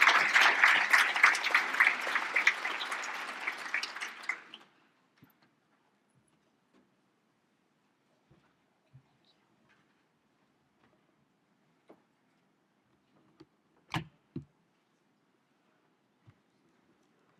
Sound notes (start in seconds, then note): 0.0 audience Applause